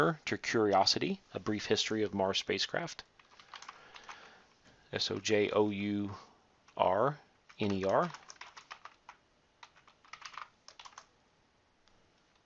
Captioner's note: typing